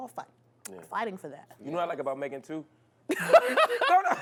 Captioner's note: laughs